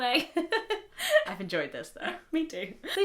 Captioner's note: laughs